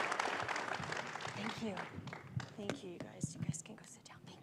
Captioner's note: applause